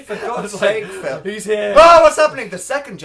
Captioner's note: laughs